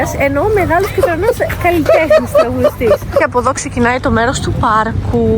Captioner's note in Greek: γέλια